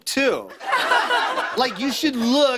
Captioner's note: laughter